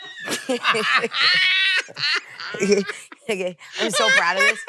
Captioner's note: both laugh